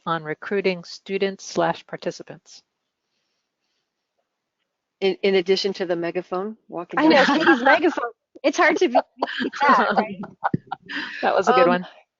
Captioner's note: laughter